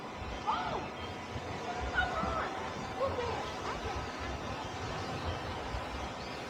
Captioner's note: crowd chatter